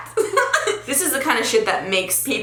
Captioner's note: laughs